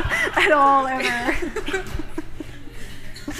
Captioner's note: laughter